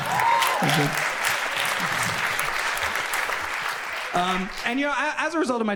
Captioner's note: audience cheers and applauds